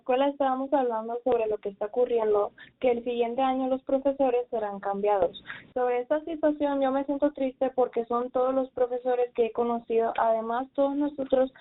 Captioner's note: speaking in spanish